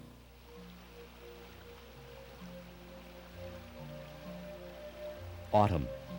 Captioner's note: water gurgling; bright orchestral music